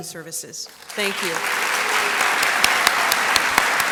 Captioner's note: applause